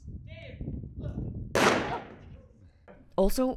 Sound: gunshot fired

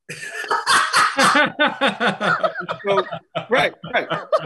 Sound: all laugh

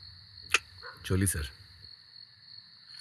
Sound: clicks tongue

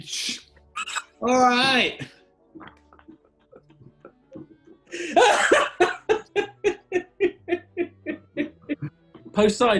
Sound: laughter

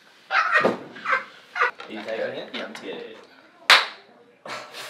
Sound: clap

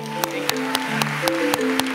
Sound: applause

